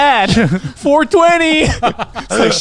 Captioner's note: laughing